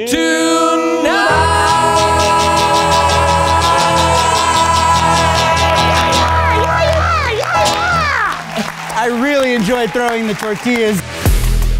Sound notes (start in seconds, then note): 7.5 audience applauding